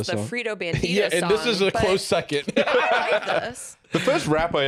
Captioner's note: laughs